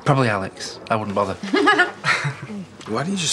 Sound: chuckles

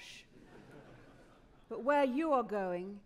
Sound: audience laughing

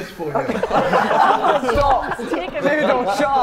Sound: Sidemen laughing

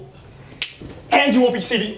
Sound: Keegan snapping

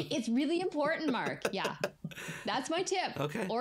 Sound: laughs

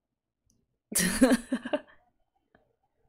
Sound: laughs

